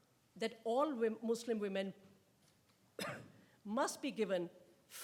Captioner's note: coughs